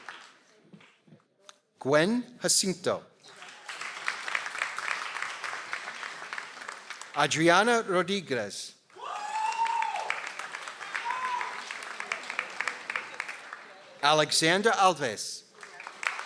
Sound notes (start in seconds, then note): 3.2 audience applauds; 8.9 audience applauds